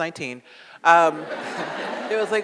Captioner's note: audience laughs